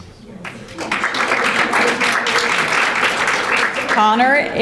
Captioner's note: audience applauding